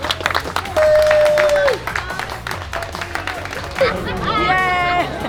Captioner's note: applause